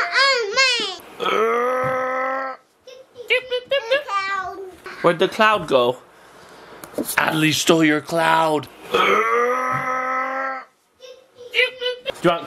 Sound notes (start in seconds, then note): 2.2 growling; 9.0 growling audio replays